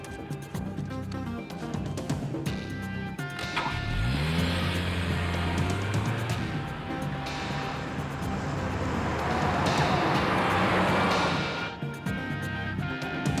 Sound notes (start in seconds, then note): 3.4 engine revving; 10.3 suspenseful music